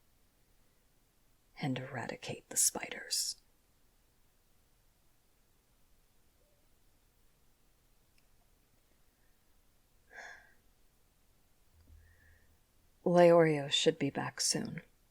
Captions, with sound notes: And eradicate the spiders… *Sigh* Leorio should be back soon